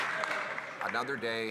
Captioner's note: some Applause